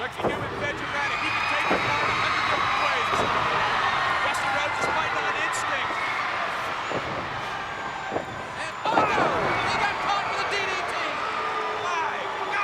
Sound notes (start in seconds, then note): 1.7 crowd cheers; 9.3 commentators exclaim